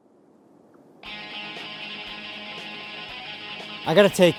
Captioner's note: cell phone rings